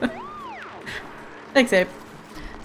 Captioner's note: laughs